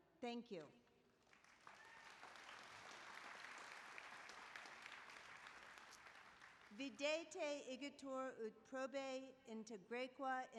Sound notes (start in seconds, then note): 1.1 applause